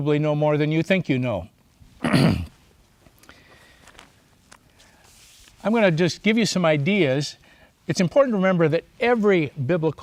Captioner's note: clears throat